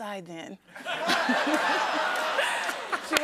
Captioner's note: laughter